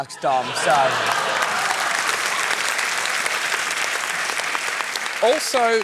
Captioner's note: cheering, applause